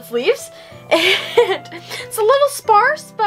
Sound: laughter

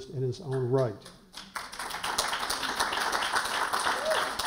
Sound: applause

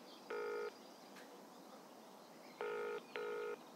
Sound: phone ringing

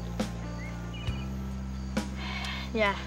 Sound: sighs

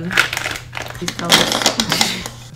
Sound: markers clatter on the desk

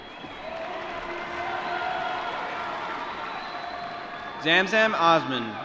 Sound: applause

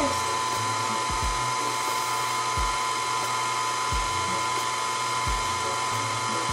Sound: pasta maker whirring continuing

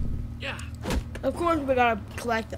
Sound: thud

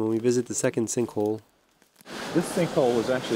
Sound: water flowing

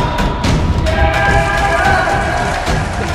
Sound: cheers

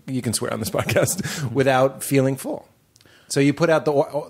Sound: laughs

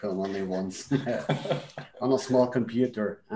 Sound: laughs

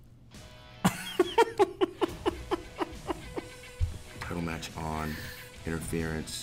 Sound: laugh

